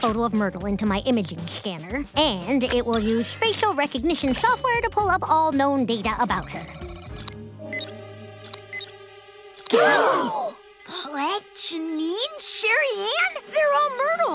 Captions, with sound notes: into my imaging scanner, and it will use facial recognition software to pull up all known data about her. [beeping] [gasping] Paulette, Jeanine, Sherri-Ann? They're all Myrtle